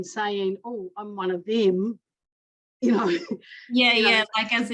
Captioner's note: chuckles